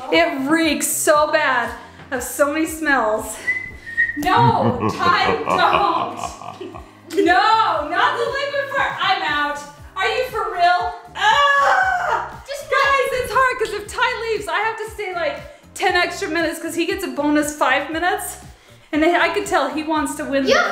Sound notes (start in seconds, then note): 4.2 evil laugh noise; 11.2 yells